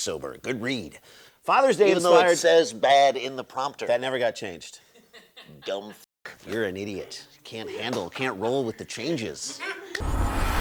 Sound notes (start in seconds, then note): 4.8 laughter